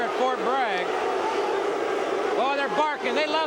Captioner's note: audience barks